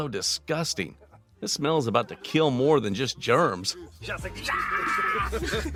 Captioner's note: laughing